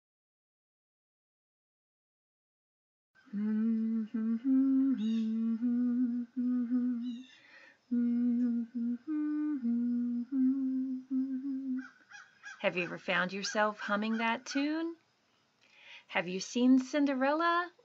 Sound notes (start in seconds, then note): 3.2 humming